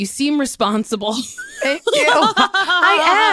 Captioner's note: laughter